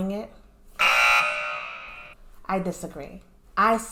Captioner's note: error sound